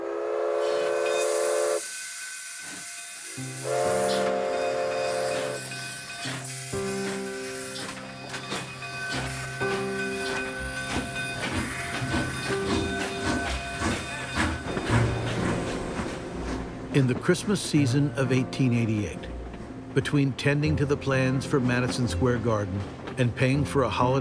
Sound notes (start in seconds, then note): 0.3 whistling; 6.7 train bell ringing, steam hissing; 15.3 engine chugging